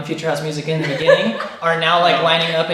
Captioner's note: laughing